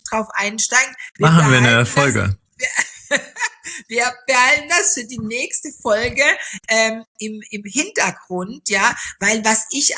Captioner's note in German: gelächter